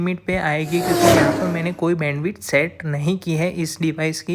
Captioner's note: racing Car